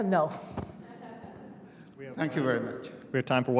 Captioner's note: laughter